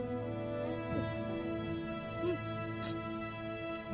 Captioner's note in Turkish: Öğürme sesi